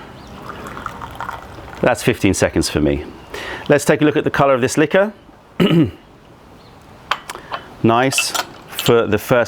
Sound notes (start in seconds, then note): 3.3 pouring tea